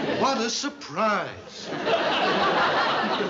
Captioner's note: laughter